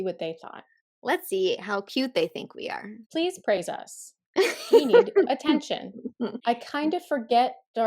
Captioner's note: laughter